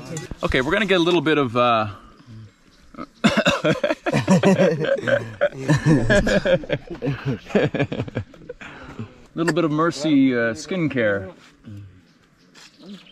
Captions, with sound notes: Okay? We're gonna get a little bit of um (they laugh) Little bit of Mursi skincare.